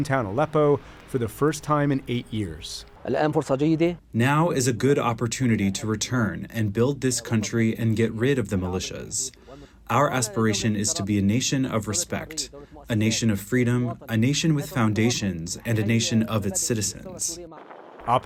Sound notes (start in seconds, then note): 5.2 through translator